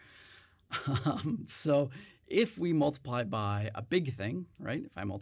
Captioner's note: chuckles